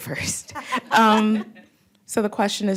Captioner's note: laughter